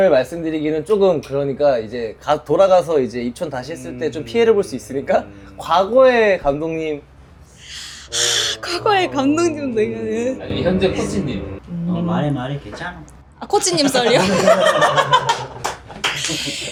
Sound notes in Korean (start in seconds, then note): 7.5 한숨; 7.6 헉 소리; 13.7 웃음